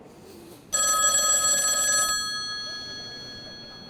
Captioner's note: phone ringing